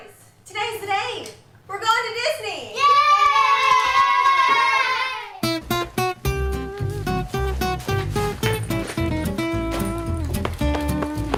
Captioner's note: kids Cheer